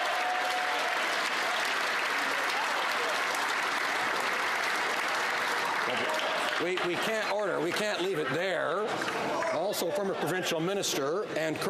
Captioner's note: applause